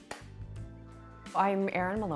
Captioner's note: loud clap